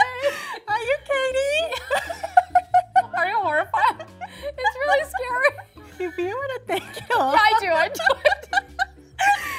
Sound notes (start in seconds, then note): 0.0 laughing; 7.7 both laughing